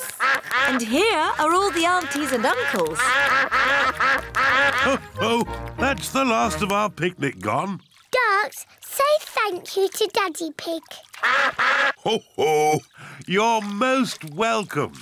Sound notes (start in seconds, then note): 11.1 all quack